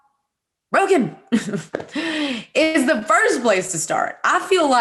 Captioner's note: laughing